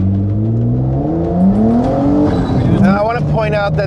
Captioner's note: engined revving